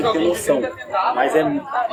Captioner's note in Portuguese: barulho da plateia se dispersando ao fundo